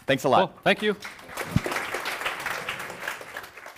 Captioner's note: applause